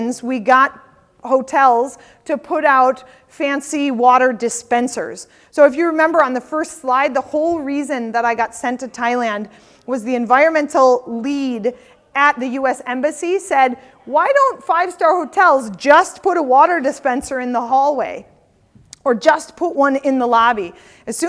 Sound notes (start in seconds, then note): none